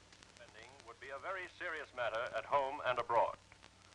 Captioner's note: radio Announcer